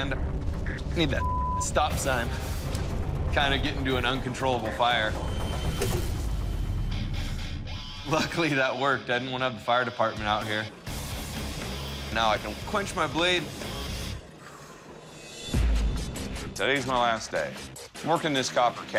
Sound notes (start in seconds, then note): 6.7 rock music; 7.5 laughs; 14.9 rock music